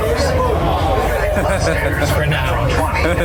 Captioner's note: collective aww